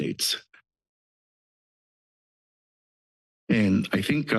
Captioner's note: pause